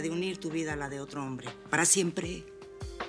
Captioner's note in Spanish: none